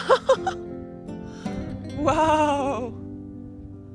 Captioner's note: laughs